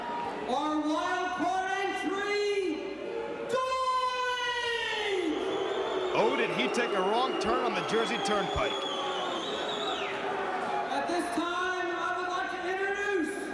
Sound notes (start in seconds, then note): 9.6 crowd cheering